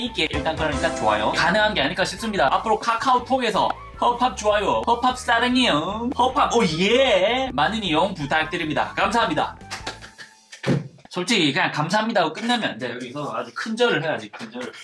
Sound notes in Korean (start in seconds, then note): 9.7 짝짝짝짝